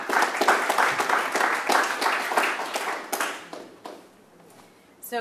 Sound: applause

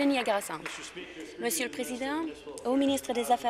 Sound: applause

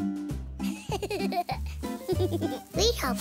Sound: giggles

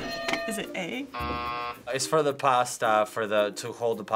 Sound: buzzer

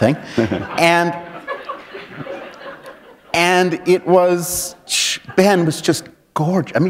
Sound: laughter

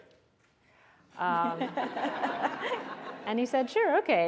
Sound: laughter

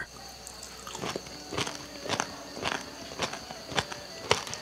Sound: lady crunches

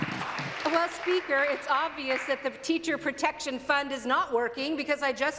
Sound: applause

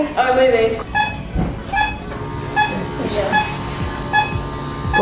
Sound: monitors beeping

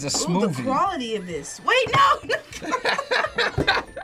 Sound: both laugh

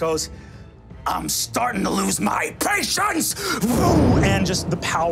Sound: mimics explosion

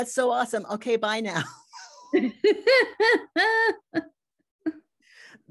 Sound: laughs

